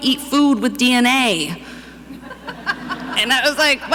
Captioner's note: audience laughing